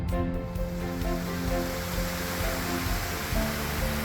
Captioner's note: sound of mountain stream